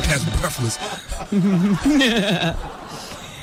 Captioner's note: audience laughing